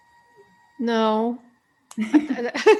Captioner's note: laughs